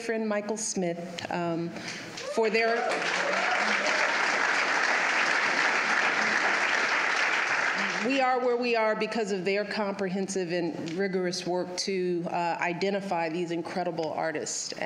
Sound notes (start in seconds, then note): 2.2 applause